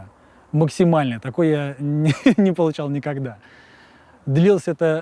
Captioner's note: chuckles